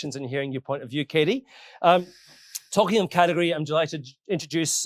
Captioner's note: none